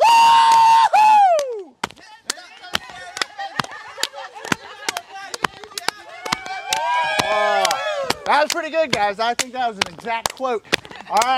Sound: yelling

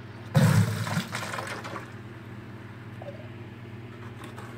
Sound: water gushes

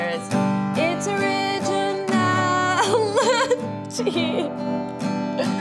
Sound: laughs

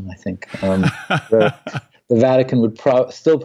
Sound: laughs

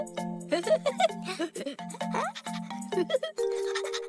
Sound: chuckles, panting

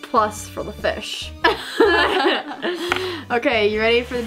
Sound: both girls laugh

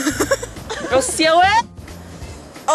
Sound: laugh; Mandarin

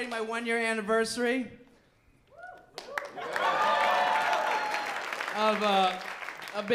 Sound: applause

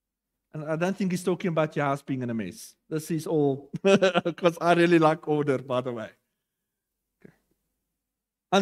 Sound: laughter

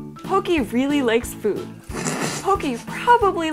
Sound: snorts

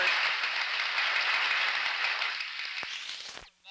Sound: applause

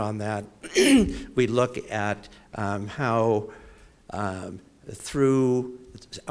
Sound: cough

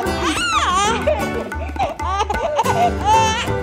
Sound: baby laughing

